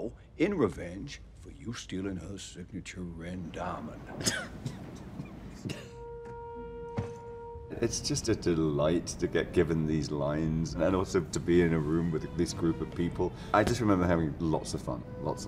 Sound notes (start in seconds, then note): 4.0 Craig chuckles; 4.0 Edward chuckles; 6.4 wistful music